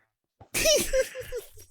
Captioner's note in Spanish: más risas jaja